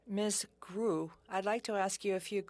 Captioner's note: speaking French